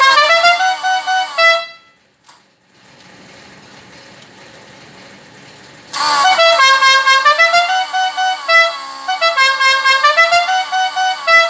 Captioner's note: Dukes of Hazzard horn